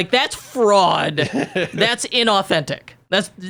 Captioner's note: laughs